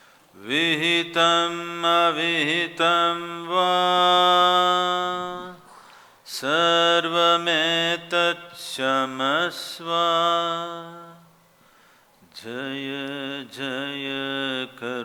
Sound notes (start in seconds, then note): none